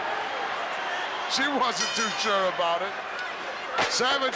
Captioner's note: bell rings